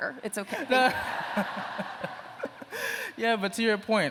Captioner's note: laughter